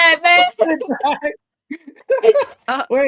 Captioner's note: continues laughing at my demise